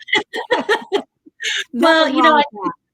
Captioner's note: laughing